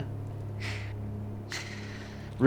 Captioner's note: Colin chuckles gravely